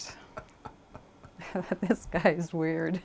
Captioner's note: laughs; laughing